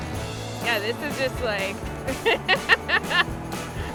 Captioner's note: laughter